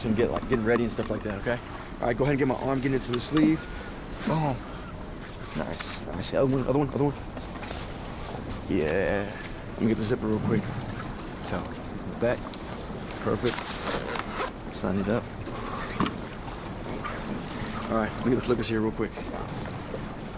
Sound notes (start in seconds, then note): 13.6 zipper zipping